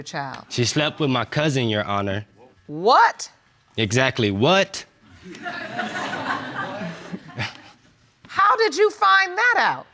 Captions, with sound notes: She slept with my cousin, Your Honor. What? Exactly, "What?" (AUDIENCE LAUGHING) How did you find that out?